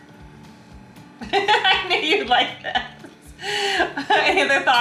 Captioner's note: laughing